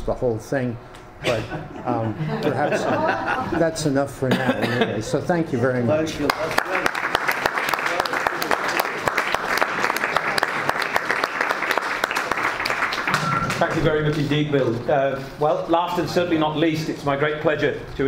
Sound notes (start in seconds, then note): 7.9 audience and panelists applaud